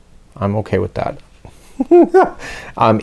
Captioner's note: big giggle